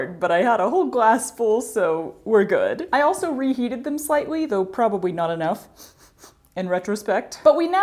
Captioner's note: sniffing